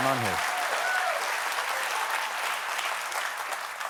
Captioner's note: applause